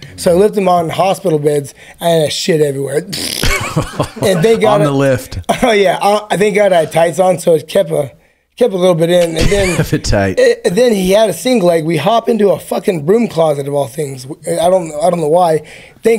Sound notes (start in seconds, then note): 3.1 blows a raspberry; 3.3 laughs; 9.2 laughs